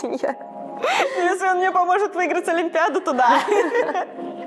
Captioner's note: laughs